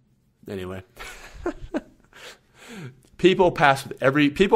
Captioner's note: laughs